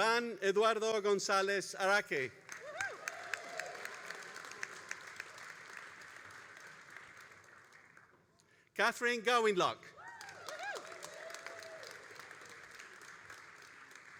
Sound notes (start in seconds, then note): 2.4 all applauding and cheering; 9.9 all applauding and cheering